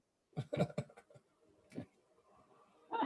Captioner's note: laughter